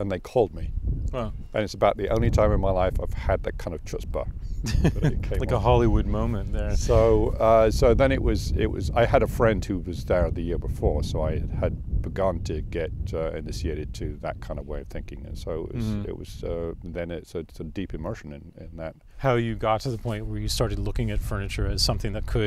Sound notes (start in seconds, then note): 4.6 laughs